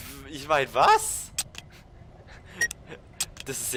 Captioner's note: nervous, but excited laugh